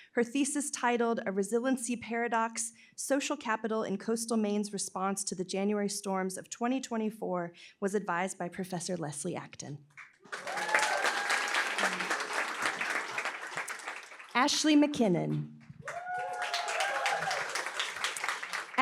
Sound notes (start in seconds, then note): 10.0 applause; 15.8 applause